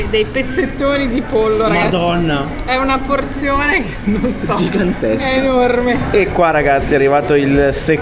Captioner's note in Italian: risate